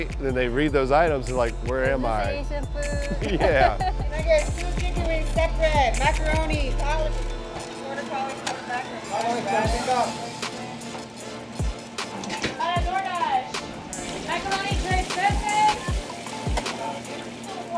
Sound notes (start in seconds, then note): 2.8 laughs; 11.0 energetic music